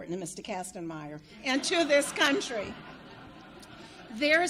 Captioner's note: audience laughs